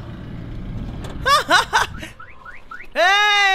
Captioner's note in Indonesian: Tertawa